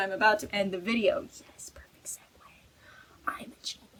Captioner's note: whispers